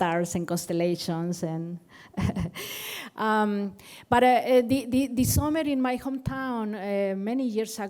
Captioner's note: laughter